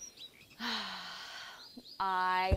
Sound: sighs

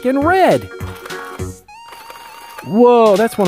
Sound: drill rattling

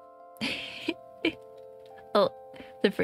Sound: laugh

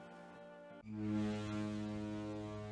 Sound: foghorn sound

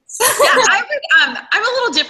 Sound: laughter

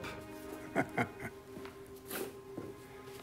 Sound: chuckles

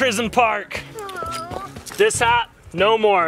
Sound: sighs

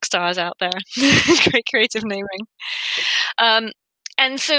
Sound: both laugh

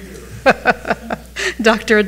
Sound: chuckles

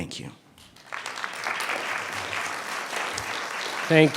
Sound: clapping

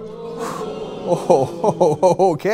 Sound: audience moans

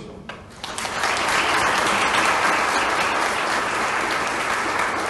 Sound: applause

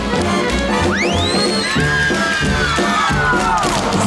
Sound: chorus screams; whistle sound

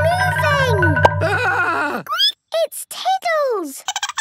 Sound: squeaking; Tiddles giggling

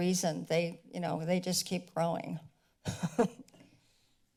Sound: laughs

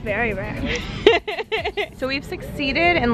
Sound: laughing

